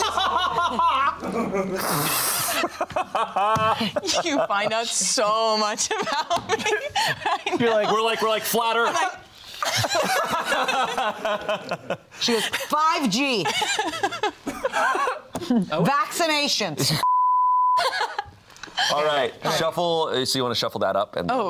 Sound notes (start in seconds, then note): 0.1 all laughing; 9.8 all laughing; 17.0 beep